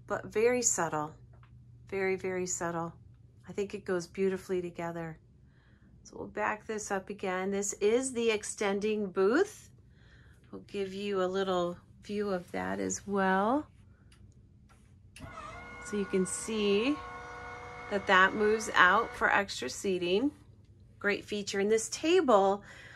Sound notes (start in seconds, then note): 15.2 motor whirring